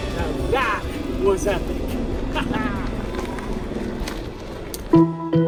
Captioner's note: laughs; lighthearted music